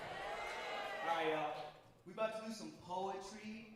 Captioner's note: audience cheering and applauding